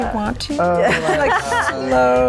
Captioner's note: laughs